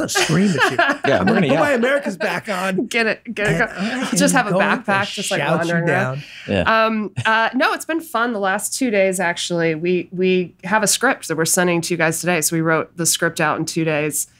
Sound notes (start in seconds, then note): 0.1 laughs; 7.2 chuckles